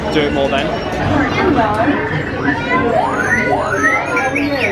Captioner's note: R2-D2 beeping